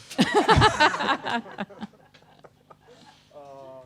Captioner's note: people laughing